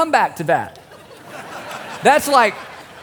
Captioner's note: laughter